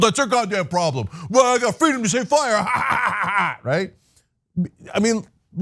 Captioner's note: laugh